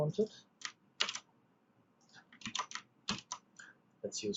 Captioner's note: keyboard clicks